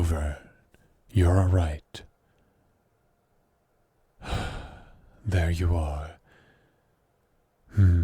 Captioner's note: sigh